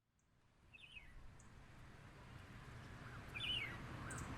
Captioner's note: birds chirping